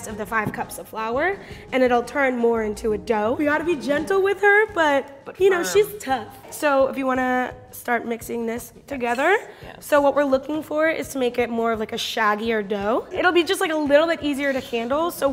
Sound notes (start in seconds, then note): none